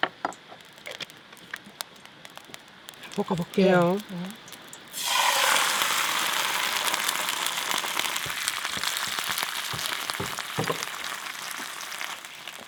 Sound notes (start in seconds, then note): 3.4 speaking foreign language; 5.4 sizzling